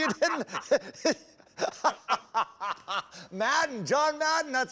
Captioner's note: laughter